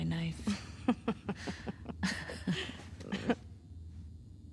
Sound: laughs

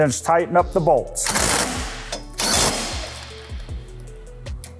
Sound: driver whirring

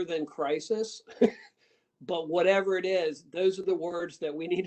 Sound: laughter

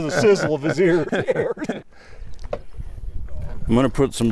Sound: both laugh

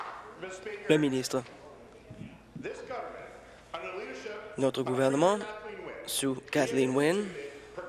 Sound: applause

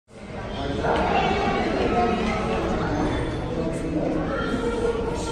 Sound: people talking loudly

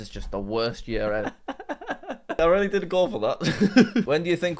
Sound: laughs

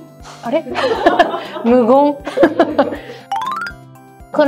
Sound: laughs

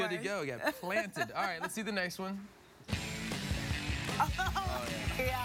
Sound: laughter

